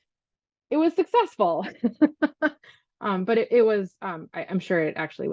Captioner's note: laughs